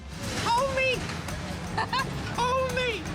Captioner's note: giggling